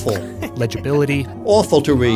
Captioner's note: laughs